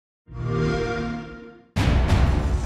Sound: xbox whoosh

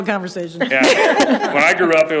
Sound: group laughing

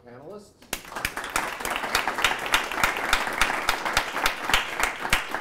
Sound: audience applauds

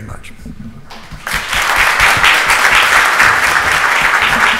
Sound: audience applauds

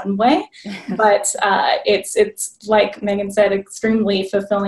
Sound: laughing

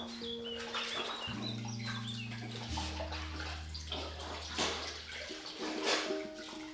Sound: water dribbles, wiping sounds

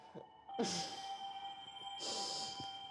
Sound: laughing

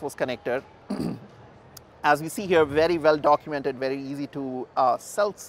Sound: cough

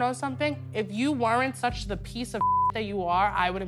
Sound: beep

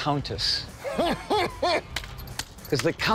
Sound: laughs

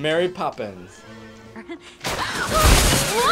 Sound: Anna screams

